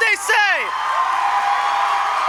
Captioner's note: applause